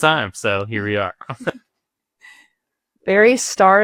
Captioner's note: chuckles